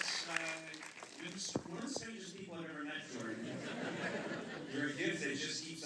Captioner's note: laughter